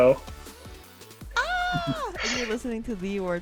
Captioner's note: screams